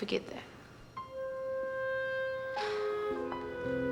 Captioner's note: sighs